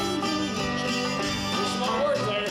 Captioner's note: hums